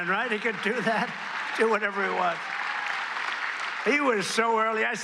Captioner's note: applause